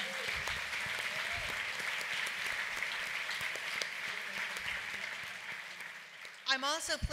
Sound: applause

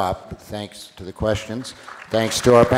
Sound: applause

